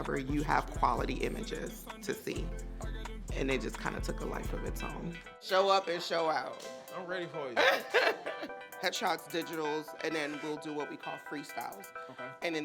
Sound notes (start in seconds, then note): 7.6 laughing